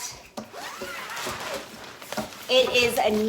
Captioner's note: zipper hissing